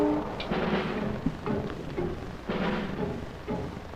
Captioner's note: bomb whistles; bomb explodes